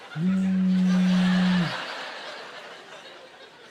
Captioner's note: laughing; imitating phone vibrating; laughing